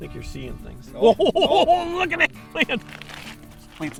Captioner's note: laughter